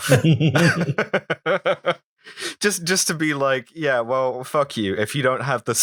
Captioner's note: laughter